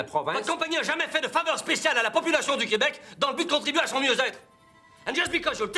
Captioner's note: Rene yelling in foreign language